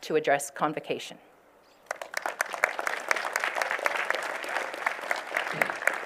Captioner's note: applause